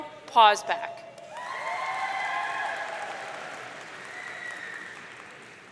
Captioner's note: audience cheering